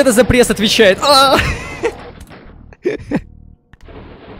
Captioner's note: grunt of frustration, followed by laughter